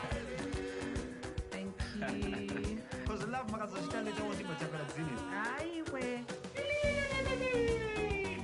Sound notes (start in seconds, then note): 1.8 laughs